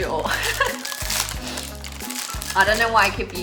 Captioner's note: chuckling